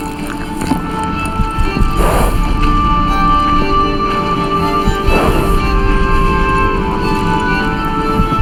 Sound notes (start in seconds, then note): 2.5 horse breathing heavy; 2.5 somber instrumental music